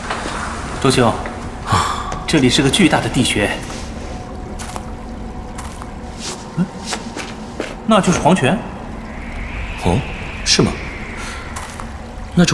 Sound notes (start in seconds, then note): 1.1 sigh